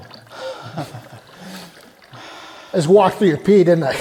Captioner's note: piddling sound